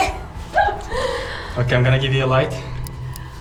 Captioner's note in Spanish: ríe